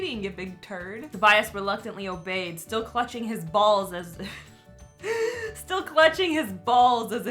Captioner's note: chuckles